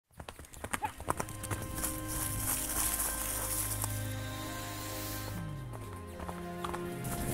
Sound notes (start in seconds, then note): 0.0 horse galloping; 0.9 feet stomping